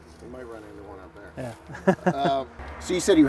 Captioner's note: chuckles